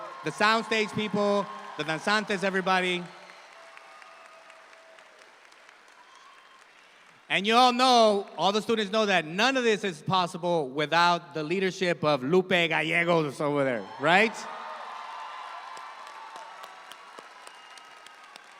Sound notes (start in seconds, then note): 3.3 audience applauding; 13.9 audience applauding